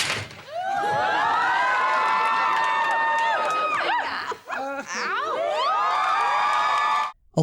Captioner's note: audience cheering